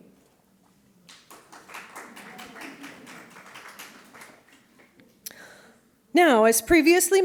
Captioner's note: applause